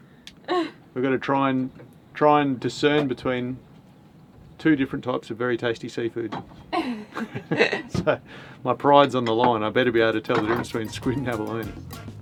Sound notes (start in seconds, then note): 6.7 both laugh